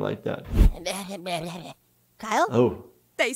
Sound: Kyle mumbling

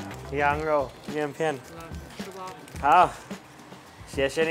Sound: speaks in Chinese

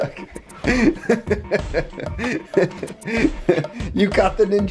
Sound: laughing

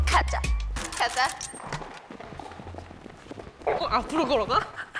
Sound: footsteps of hot girls

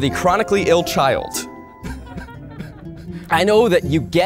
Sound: light chuckles

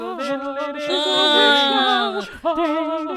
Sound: monotone scream of despair

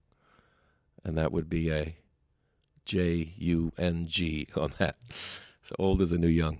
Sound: chuckles

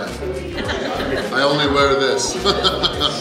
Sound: laughs

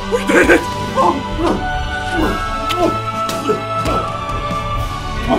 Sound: lips smacking

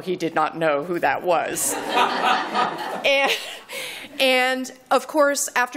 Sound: laughter

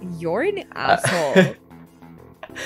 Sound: laughs

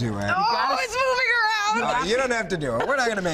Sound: laughter

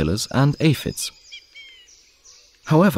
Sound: sounds of nature

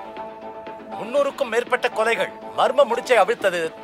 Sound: TV news

